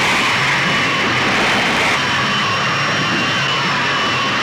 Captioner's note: roaring